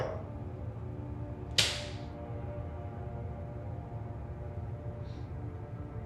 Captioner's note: card smacking floor